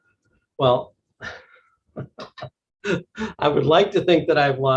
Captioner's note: laughing